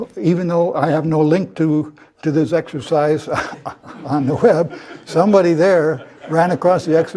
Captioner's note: laugh